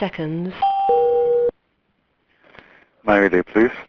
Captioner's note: machine rings